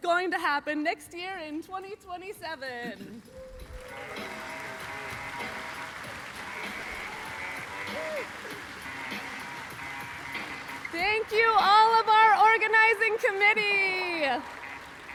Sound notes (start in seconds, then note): 3.2 applause, music playing